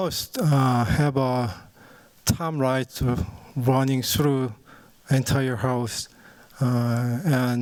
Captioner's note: non-english speech